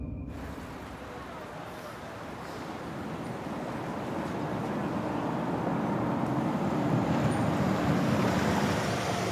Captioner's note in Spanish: Ruido del vehículo